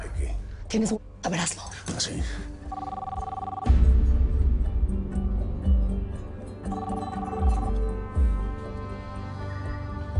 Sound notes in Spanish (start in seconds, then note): 2.6 Suena el teléfono; 6.6 Suena el teléfono